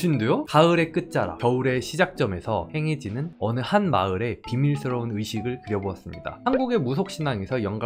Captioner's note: voiceover